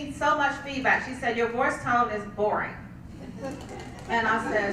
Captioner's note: laugh